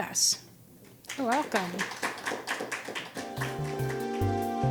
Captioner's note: audience claps; gentle music